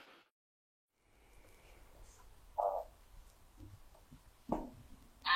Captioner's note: silence